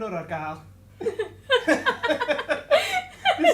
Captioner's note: laughter